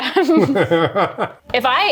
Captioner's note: laughing